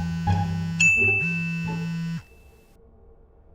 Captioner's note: beep